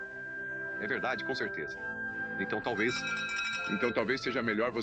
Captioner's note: door bell ringing